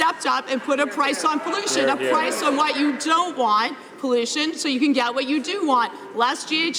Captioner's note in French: voix de l'interprte